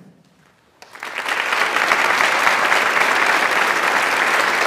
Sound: audience applauds

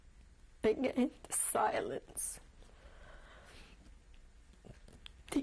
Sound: pauses for 3 seconds

